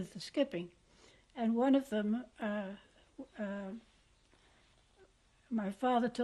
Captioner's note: pauses for 3 seconds